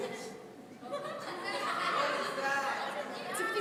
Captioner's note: laughing